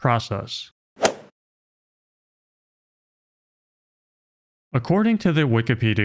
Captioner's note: golf ball hit sound effect